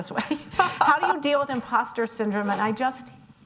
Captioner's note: laughing